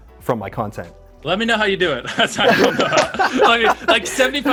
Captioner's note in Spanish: risas